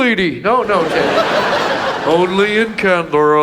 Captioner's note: audience laughs